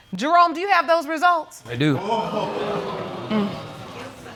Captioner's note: audience exclaims